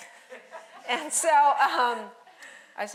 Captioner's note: audience laughing